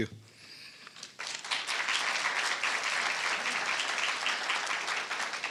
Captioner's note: applause